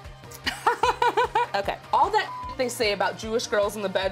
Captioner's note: laughter